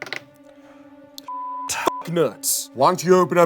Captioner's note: beep